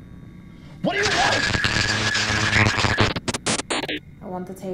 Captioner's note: noise intensifies and interferes with his words